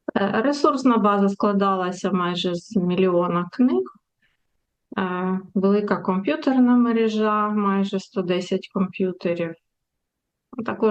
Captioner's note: foreign language